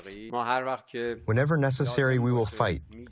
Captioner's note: through translator